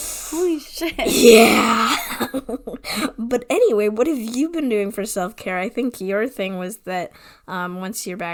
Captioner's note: laughing